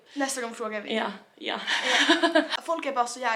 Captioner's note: laughing